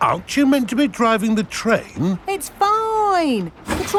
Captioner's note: none